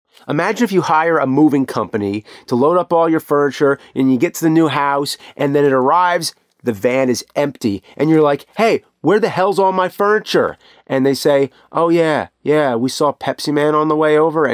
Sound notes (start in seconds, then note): none